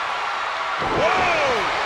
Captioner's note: crowd cheering; body thudding